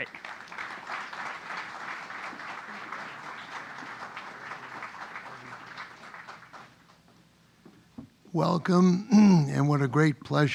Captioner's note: applause; cough